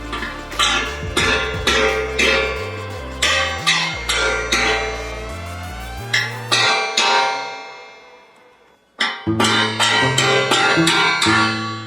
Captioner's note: sound of hammer striking the foot